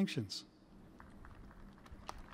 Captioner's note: cheers and applause